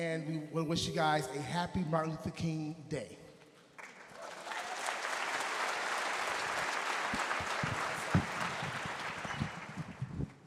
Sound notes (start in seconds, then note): 3.8 audience applauding